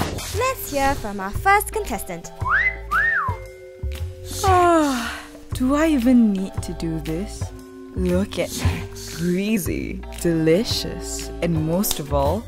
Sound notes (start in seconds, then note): 2.4 whistle; 4.4 yawns